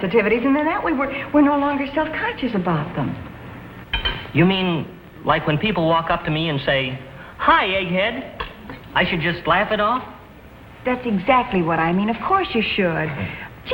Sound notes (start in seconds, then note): none